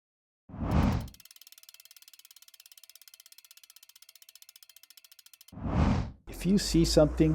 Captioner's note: whoosh; compass spinning